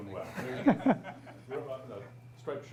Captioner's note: laughs